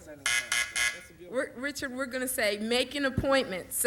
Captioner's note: buzzer sounds